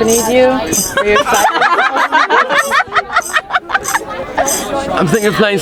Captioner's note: tambourine jangling; audience laughing